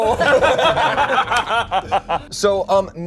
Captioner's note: all laugh